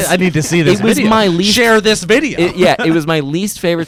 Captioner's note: laughs